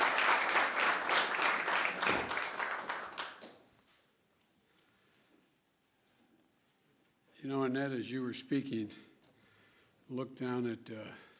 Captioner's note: applause